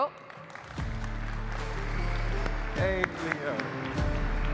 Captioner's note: audience applauding; upbeat music